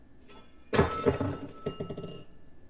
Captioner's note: crash